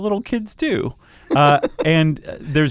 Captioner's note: laughs